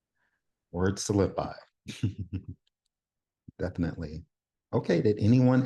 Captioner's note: chuckles